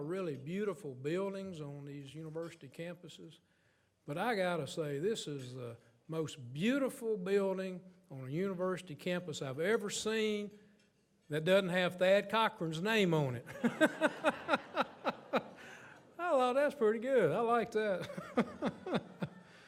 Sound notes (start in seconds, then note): 13.5 audience laughs; 13.5 laughs